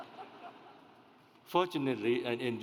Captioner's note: audience laughs